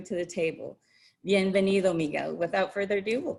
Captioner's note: speaks in Spanish